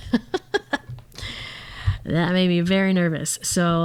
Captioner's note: laughs